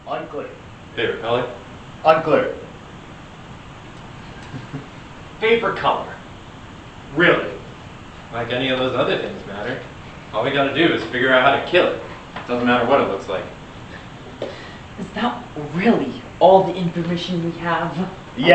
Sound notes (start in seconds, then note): 4.2 giggles